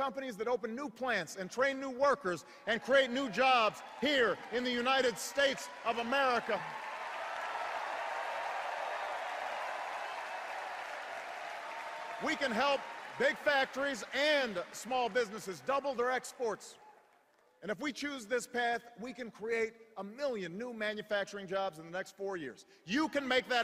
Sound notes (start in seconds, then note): 7.9 cheers and applause